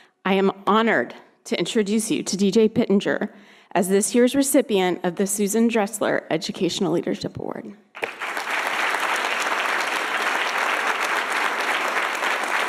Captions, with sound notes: I am honored to introduce you to DJ Pittenger as this year's recipient of the Susan Dressler Educational Leadership Award. (audience applauding)